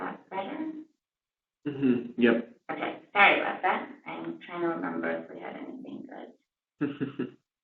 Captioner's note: laugh